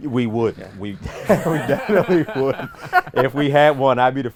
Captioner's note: everyone laughs